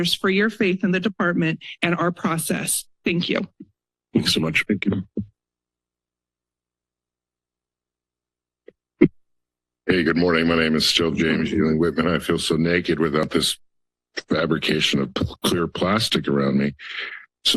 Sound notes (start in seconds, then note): 5.2 silence